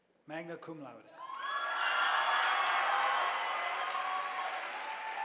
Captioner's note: audience applauding